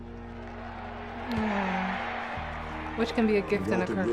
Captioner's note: crowds cheering